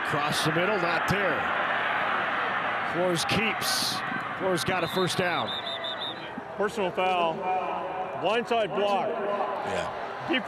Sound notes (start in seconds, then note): 4.8 referee blows whistle